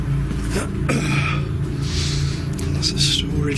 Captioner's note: clearing throat, sniffing